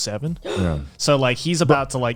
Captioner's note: gasping